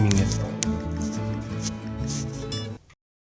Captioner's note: sound of phone being dragged